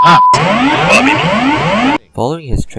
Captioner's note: Autopilot Disconnect Sound